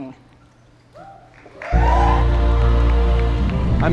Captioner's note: cheers and applause